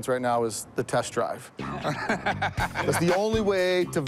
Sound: laughter

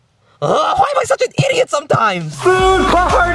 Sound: yells

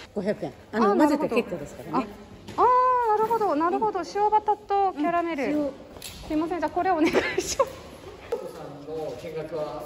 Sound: laughs

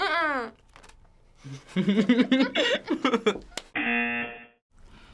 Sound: buzzer; both laugh

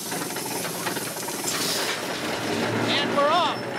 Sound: engine starts up

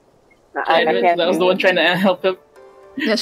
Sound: pained groaning

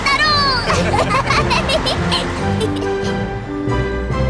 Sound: laughing

